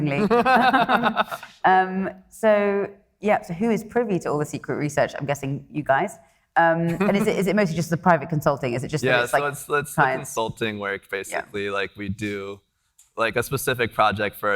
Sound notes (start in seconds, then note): 0.1 laughing; 6.9 laughing